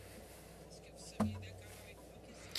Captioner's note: speaking French